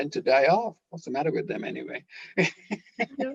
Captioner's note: laughing